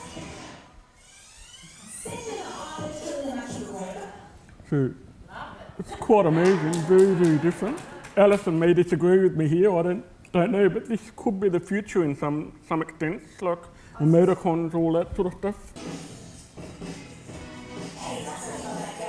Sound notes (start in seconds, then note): 6.3 audience claps